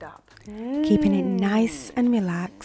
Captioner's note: humming